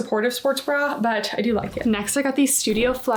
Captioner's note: graphic whooshing